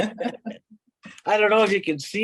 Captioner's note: laughing